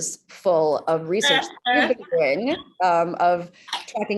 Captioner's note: laughing